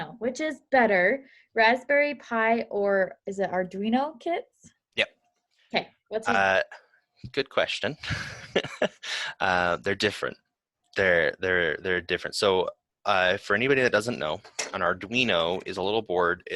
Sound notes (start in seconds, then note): 8.0 laughs